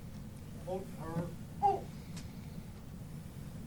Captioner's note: marching commands